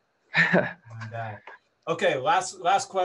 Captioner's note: laughs